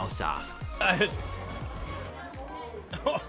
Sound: gagging

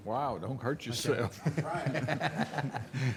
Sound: laughing

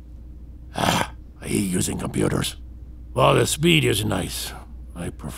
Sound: disgruntled

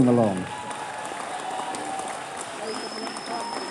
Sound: cheers

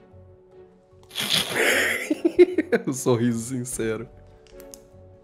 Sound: laughs

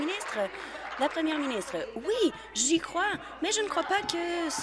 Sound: applause

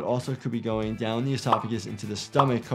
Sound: graphics popping

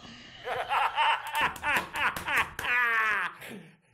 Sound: X laughing

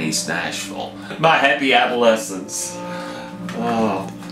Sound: sighs

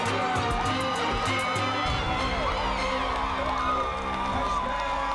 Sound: crowd cheering

